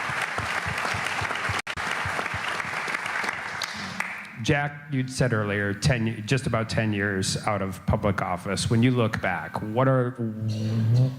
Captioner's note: applause